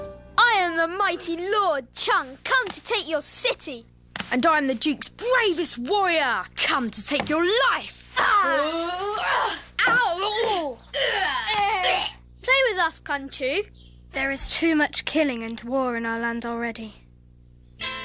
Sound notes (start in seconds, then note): 8.2 boys playing